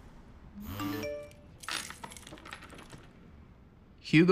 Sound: phone chimes

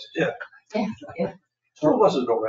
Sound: people chuckle

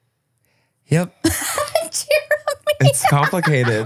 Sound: laughs

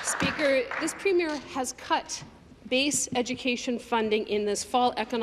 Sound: applause

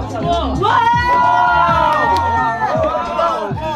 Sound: cheering

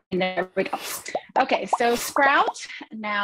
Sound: bubbles popping

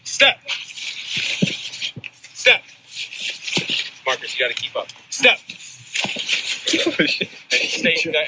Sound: laugh

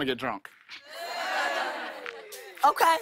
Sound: light laughter

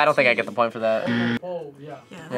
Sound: buzzer rings

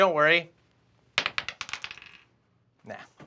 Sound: die clatters

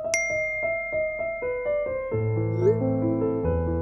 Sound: bell ringing; text message whooping

